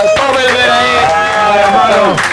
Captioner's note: applause